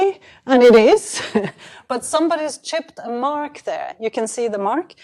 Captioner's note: chuckles